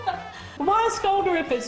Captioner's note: laughing